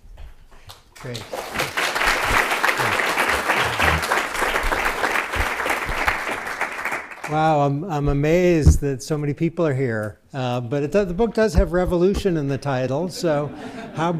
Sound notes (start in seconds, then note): 0.9 applause